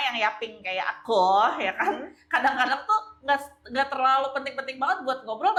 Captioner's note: laughs